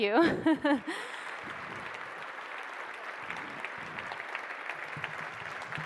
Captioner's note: audience laughing; audience applauding